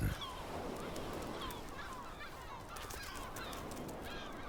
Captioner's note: gulls cawing